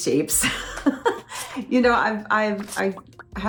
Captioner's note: laughs